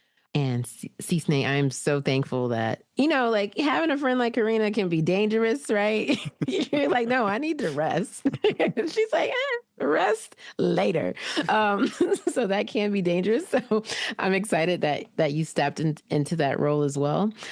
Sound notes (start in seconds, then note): 8.2 chuckle